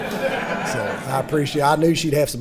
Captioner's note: audience laughing